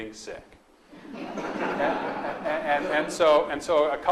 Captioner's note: audience laughs